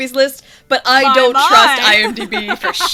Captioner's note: laughs